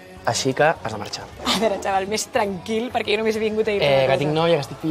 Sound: laughs

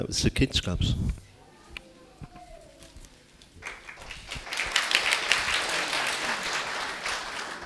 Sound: applause

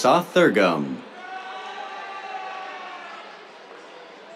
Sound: cheers

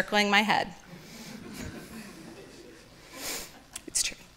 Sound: audience laughing

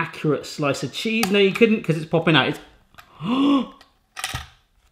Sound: gasps

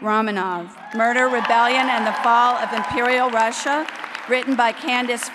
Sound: applause

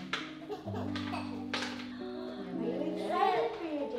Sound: crying

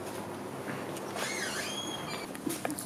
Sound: door closes

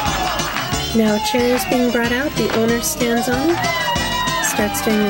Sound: applause

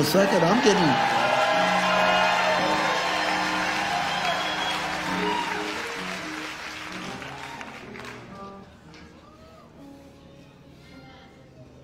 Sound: crowd cheering

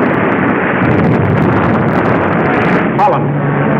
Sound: explosion roaring

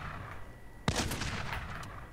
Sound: gunshot

